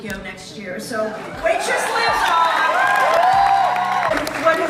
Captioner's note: applause, cheers